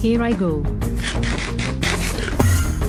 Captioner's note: eating